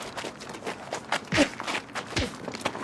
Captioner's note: smack, Smack